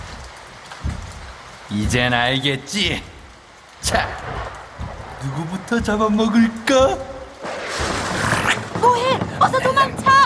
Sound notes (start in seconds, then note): 8.1 snarls